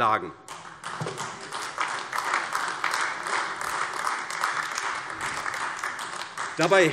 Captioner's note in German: Beifall AfD